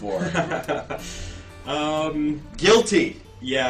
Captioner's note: laughs